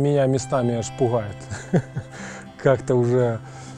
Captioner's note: laughs